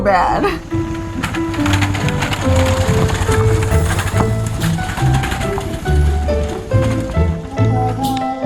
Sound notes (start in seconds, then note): 0.3 rattling sounds